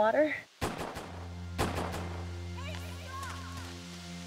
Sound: dramatic music; gunshots firing

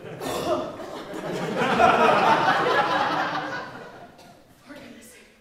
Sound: Miss Todd coughs; audience laughs

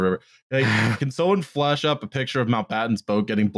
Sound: laughs

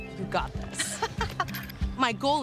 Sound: laughs

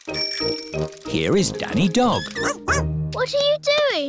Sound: bell ringing

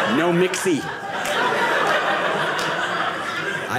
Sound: audience laughing

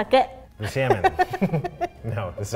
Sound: laughs

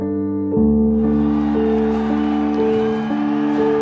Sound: crowd cheering

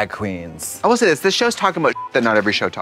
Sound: beep

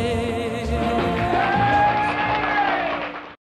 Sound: applause, cheers

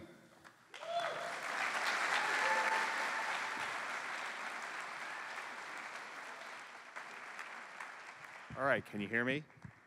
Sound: cheering

